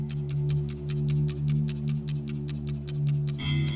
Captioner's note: ticking clock